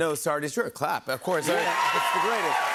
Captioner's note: cheers and applause